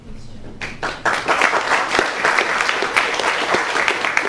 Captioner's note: crowd applauds